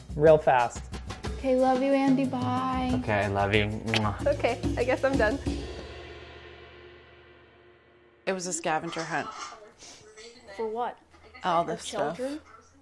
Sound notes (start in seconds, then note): 3.8 blows kiss; 5.2 cymbal crash